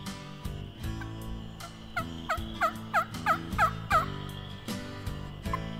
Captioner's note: turkey call continues